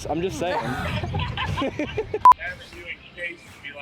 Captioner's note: laughter